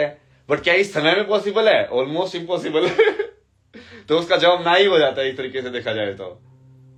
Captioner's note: हंसी